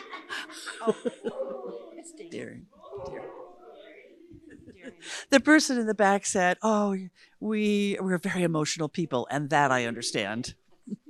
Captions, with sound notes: [Woman laughs] -[Audience chattering] The person in the back said, "Oh, we--we're very emotional people." And that I understand.